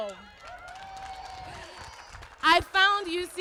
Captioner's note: applause